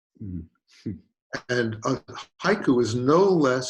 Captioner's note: chuckles